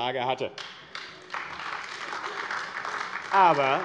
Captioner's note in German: Beifall AfD